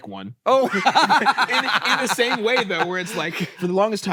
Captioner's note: laughs